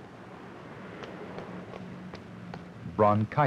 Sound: footsteps

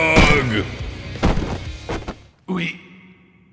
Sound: thunk-thud

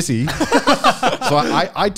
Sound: laughing loudly

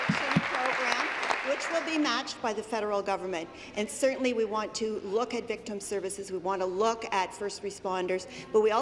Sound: applause

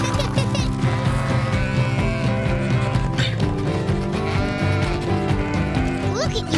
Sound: laughing; sheep baaing

